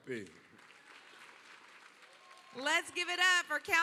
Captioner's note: applause